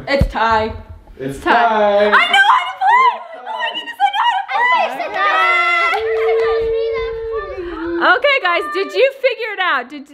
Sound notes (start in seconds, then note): 4.1 cheering